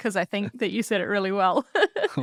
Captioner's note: laughs